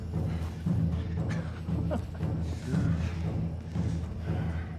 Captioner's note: Thor chuckles